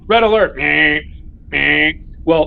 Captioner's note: imitates Alarm